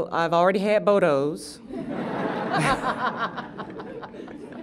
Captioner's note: laughter